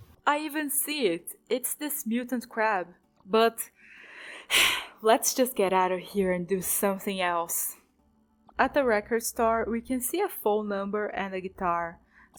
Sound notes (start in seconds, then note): 4.2 sigh